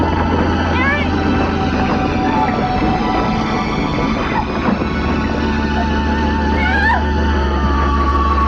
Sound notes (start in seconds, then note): 3.3 screaming